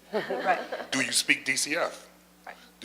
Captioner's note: laughter